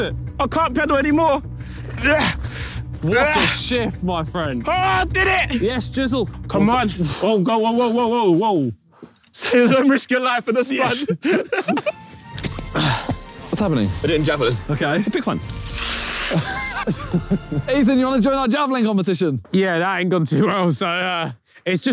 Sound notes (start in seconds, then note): 2.1 Tobi grunting; 10.7 laughs; 11.8 happy music begins; 16.2 Simon laughing